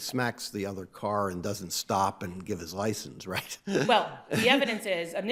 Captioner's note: chuckles